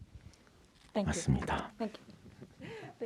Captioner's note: speaking in Korean